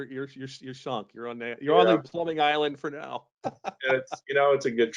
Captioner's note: laughing